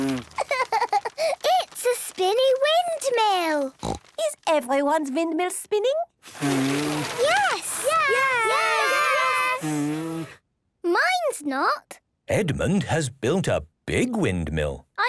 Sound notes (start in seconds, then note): 6.2 blowing, fluttering; 10.1 blows